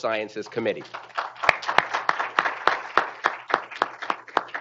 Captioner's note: group applauding